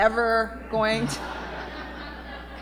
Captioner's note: laughter